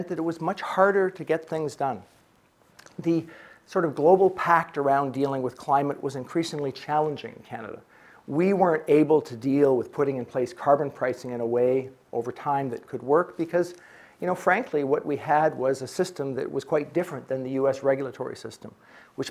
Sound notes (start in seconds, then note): none